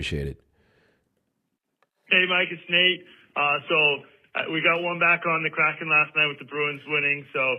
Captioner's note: voicemail playback